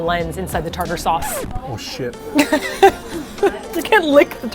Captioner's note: laughs